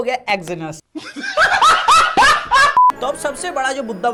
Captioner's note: laughs